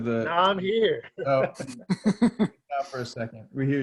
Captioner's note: laughing